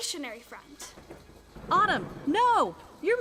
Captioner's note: thunder rumbling